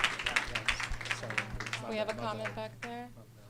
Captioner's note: applause